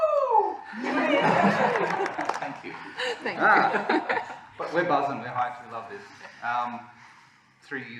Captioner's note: laughter